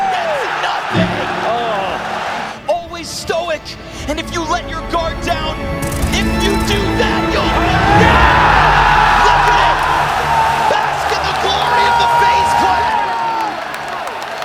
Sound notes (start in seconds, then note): 0.0 audience cheers; 6.2 audience cheers